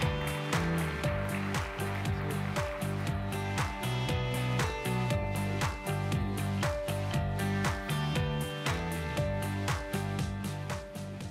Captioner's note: applause